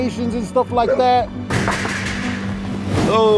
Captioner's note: door knocking